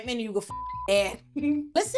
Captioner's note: beep